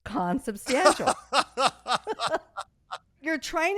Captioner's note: laughing